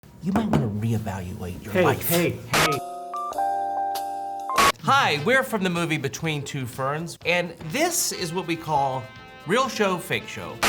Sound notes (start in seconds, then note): 3.0 soft jazz music; 3.0 static hissing